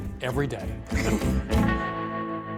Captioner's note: laughs